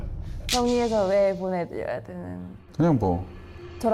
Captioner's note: snapping out of it sound effect